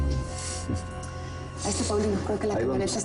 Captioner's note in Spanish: Ríe